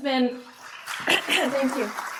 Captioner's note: applause